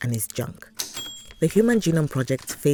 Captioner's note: a typewriter DINGS!